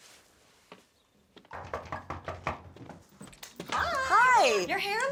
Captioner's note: knocking